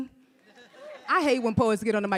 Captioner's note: audience laughs